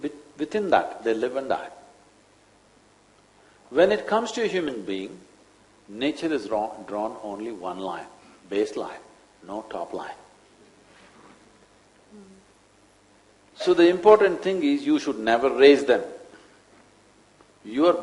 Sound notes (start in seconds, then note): none